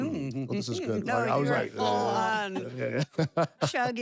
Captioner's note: laugh